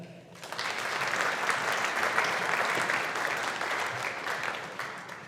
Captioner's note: audience applauding